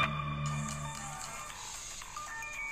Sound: phone Ringing

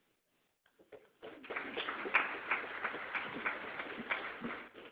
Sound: audience applauding

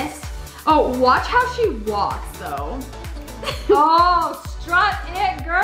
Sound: laughs

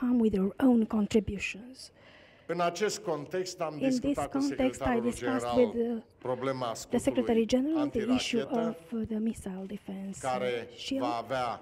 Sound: speaking in romanian

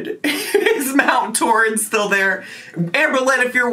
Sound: laughs

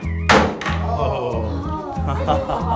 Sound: laughs

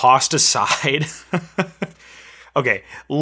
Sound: laughing

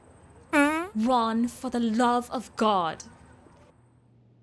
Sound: Ron farting

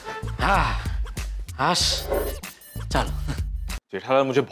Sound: sighs

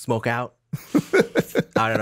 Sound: Justin laughs

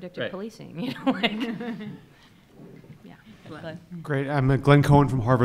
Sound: laughing

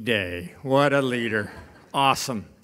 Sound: audience laughing

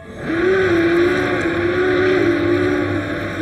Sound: roars; growls

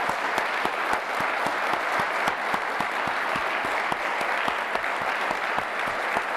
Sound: applause

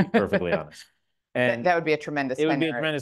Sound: laughs

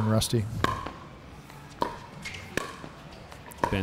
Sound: ball bouncing

